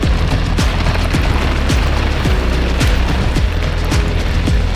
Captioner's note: bike tires rolling on slate; bikes whooshing past; upbeat music continues